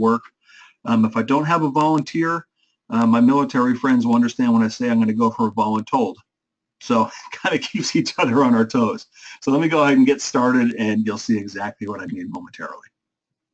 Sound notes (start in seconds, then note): 6.9 laugh